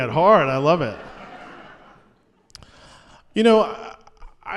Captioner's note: laughter